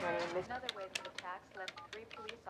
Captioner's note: phone beeping